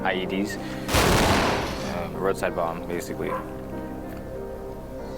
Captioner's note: explosion blast